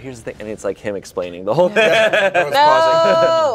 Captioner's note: laughs